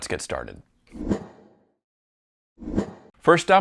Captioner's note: air whooshing